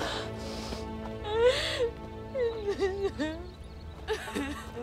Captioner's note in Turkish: Ağlama sesi